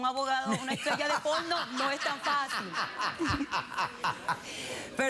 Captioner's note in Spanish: risas